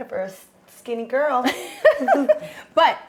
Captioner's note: Brandi chuckles